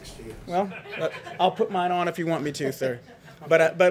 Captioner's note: laughter